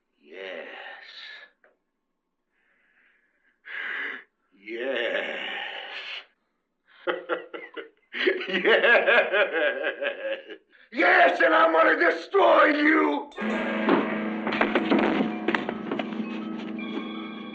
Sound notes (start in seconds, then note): 7.0 laughing; 7.0 evil laughter; 13.3 tense music